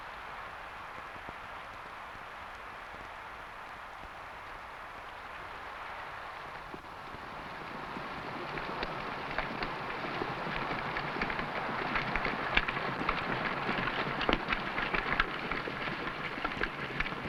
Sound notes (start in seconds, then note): 7.0 horse hooves pattering